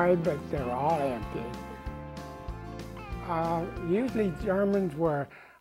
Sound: laughing

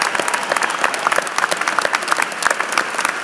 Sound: applause

